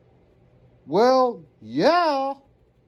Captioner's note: sarcastically